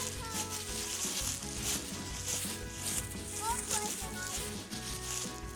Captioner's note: leaves crunching